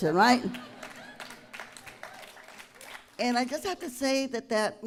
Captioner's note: applause